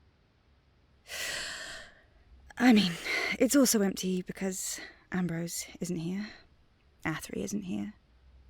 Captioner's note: inhaling